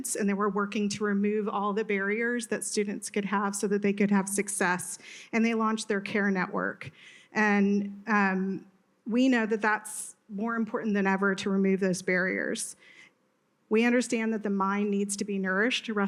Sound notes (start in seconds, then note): none